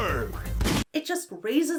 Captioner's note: gun fires